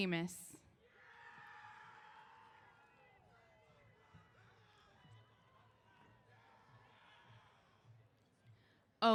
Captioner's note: cheers